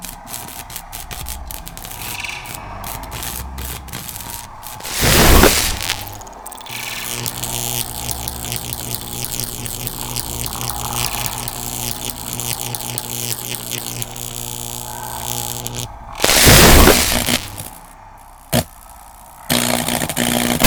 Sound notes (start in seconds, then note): 0.3 electric sounds; 5.1 dangerous sounding electric sparks